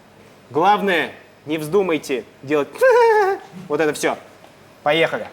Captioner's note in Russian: фальшивые смешки